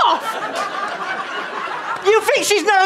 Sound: audience laughter

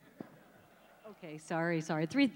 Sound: laughs

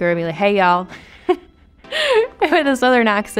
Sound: Madelyn giggling

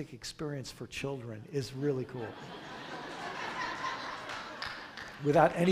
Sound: crowd laughter

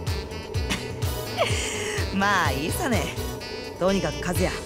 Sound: chuckle

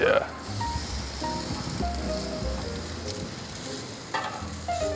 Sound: grill sizzling

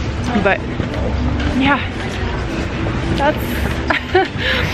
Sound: chuckles

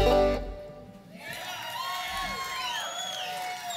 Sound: clapping; cheering

